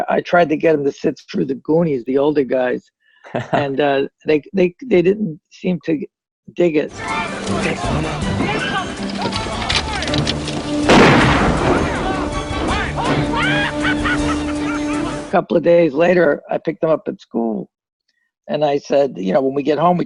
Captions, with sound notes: I tried to get them to sit through the Goonies, the older guys, and they didn't seem to dig it. (gunshot) (maniacal laughter) A couple of days later, I picked them up at school and I said when we get home